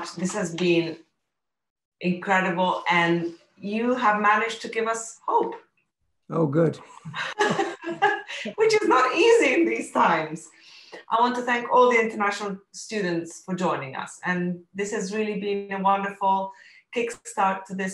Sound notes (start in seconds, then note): 6.6 chuckles